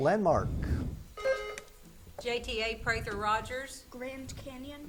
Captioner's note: buzzer beeps